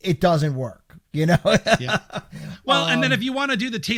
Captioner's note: laughing